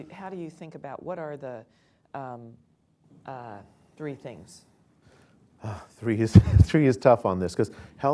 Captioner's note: laughs